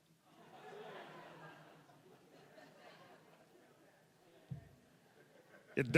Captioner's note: audience laughing